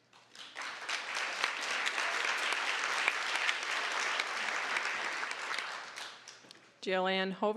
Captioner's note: applause